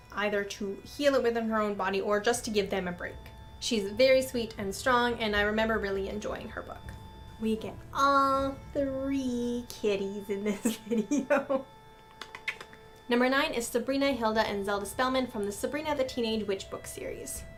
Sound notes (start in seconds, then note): 10.6 laughs